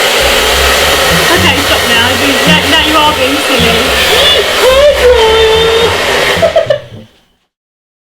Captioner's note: mum, laughing